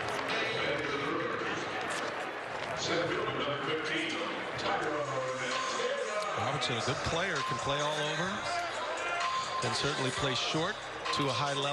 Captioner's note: applauding